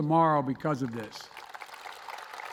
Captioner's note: applause